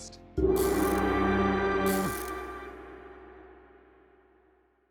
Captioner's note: logo hums and crackles